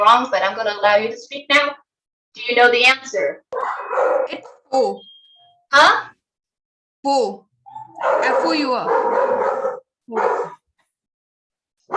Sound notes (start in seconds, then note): 7.6 dog barking